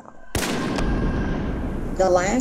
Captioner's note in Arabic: انفجارات البندقية